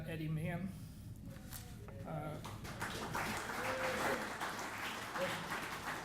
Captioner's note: audience applauding